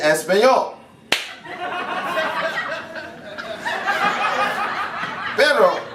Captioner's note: laughter